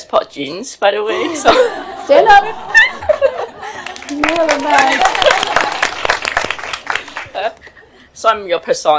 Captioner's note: laughter